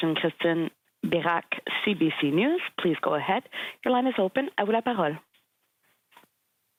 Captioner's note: speaking French